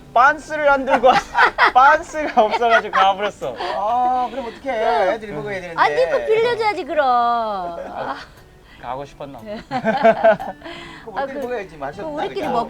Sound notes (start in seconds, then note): 9.5 everyone laughing